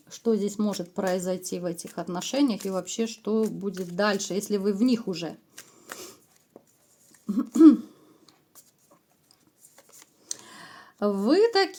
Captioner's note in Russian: откашливается